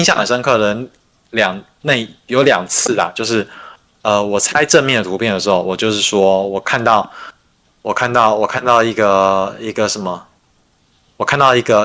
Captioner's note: non-english speech